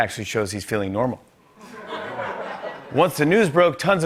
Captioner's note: light laughter